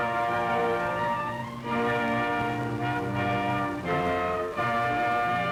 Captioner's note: shouting